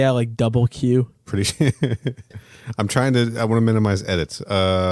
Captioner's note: laughing